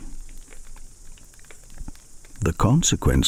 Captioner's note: fire crackling and night insects buzzing